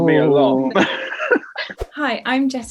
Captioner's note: Kit laughs